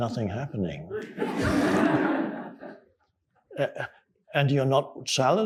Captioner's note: audience laughing